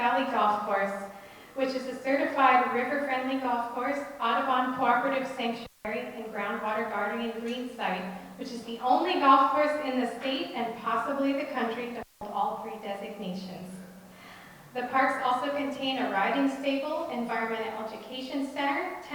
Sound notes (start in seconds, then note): none